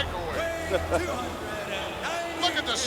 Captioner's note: laughs